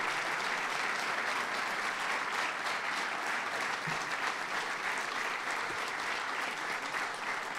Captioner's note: applause